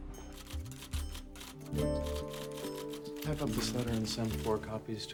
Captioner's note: typing